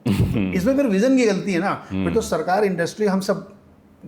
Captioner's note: sound of clearing throat